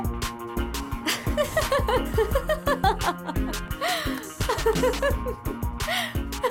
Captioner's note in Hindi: हँसी